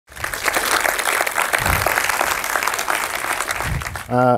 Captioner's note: audience applauds